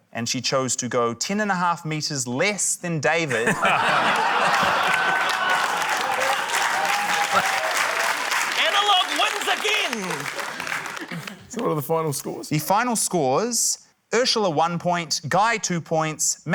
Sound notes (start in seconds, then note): 3.3 laughter; 5.5 applause